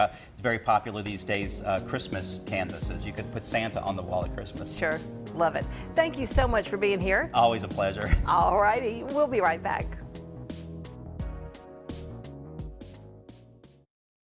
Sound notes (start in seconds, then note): 9.0 laughs; 13.0 smooth jazz music